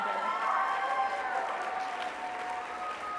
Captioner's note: applause